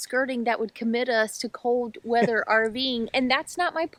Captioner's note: laughs